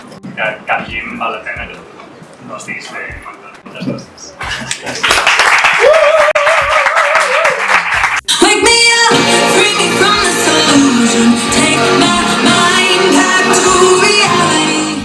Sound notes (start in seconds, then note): 4.7 applause